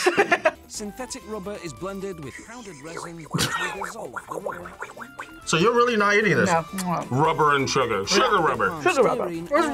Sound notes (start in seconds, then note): 0.0 laughs; 2.4 slurps; 2.8 laughs